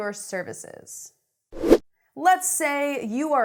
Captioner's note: air whooshing